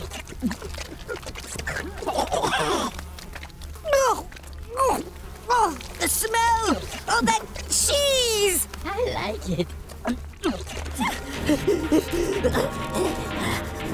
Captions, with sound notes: [gasping] The smell of that cheese! I like it. [panting]